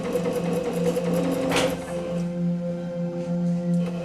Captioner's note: sewing machine whirring